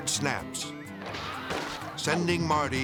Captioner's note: cord popping